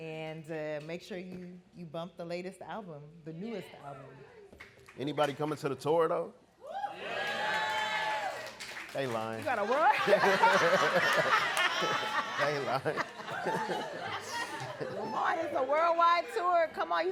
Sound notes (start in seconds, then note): 6.7 audience cheering; 9.7 laughing